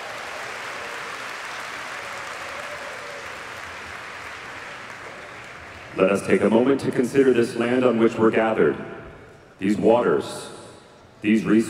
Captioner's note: applause